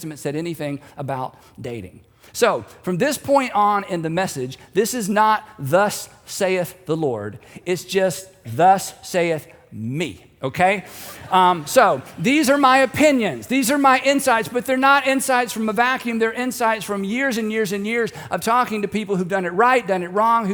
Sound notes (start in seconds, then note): 10.8 audience laughing